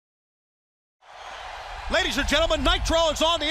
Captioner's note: crowd cheering